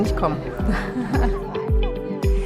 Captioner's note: laughs